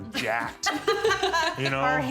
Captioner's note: laughing